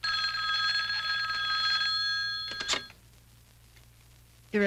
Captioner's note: phone ringing